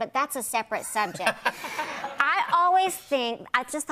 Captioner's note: laughter